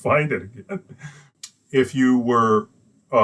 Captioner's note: laughs